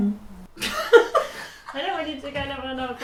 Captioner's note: laughs